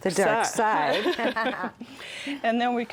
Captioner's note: both laugh